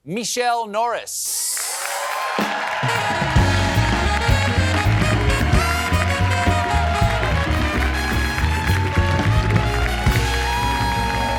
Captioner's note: cheers and applause